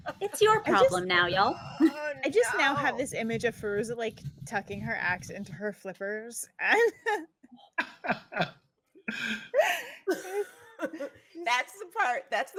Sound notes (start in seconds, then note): 7.8 laughing